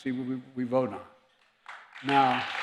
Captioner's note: applause